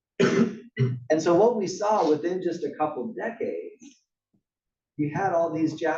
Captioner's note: cough